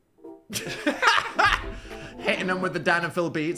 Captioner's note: Dan and Phil laughing